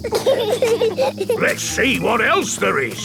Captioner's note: bees buzzing